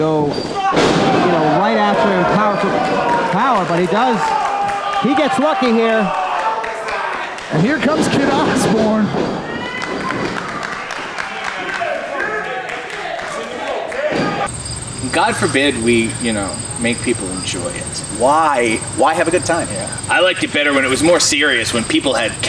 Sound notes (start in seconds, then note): 9.8 audience applauding